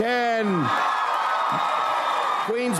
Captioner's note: audience applauds